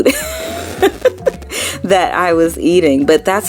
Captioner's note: laughing